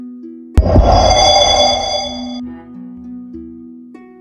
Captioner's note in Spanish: Sonido de Teletransportacion